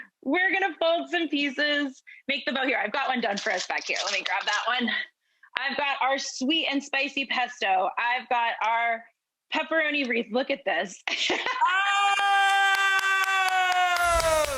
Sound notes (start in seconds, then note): 10.6 laughs; 12.5 claps